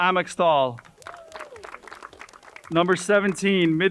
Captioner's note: crowd cheering and applauding